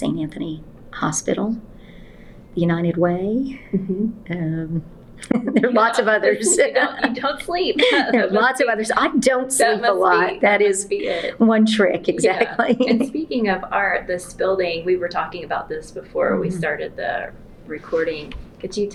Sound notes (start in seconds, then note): 5.2 laughs; 12.6 laughter